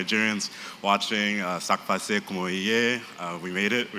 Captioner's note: non-english